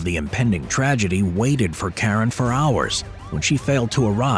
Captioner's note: sirens wailing